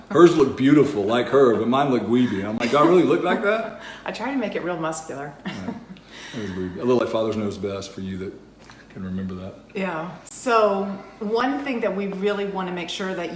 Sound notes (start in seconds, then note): 5.3 laughs